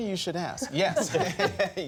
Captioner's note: laughter